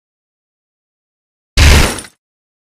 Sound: clunk

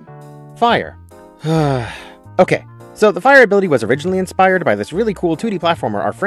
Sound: sigh

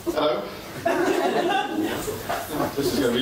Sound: laughter

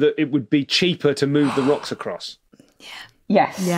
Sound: gasps

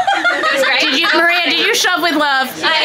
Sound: people laughing

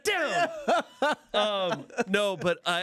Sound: everyone laughs

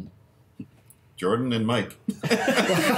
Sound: laughter

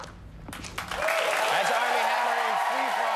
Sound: cheers and applause

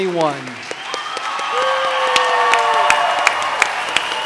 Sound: audience cheers

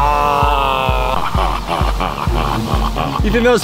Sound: laughing

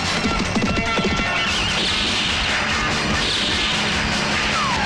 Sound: tires squealing; gunshot

